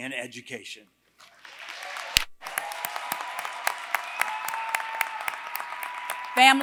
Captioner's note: applause